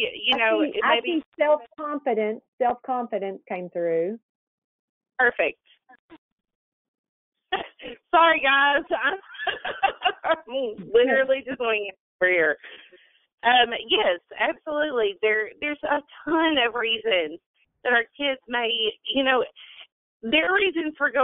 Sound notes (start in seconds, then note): 8.8 laughs